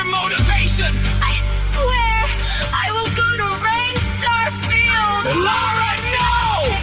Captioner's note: Elara, female, trembling